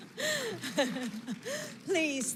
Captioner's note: laughs